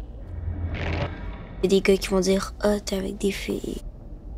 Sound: Milo speaking in French

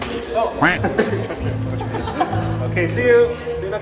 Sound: duck quack

